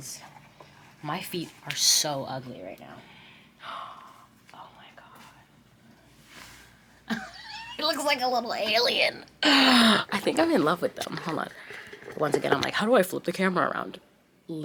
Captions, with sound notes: 'cause my feet are so ugly right now. (gasps) Oh my God. (laughs) It looks like a little alien. I think I'm in love with them, hold on. Once again, I'm like, "How do I flip the camera around?"